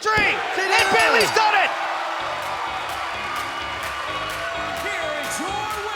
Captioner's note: bell dinging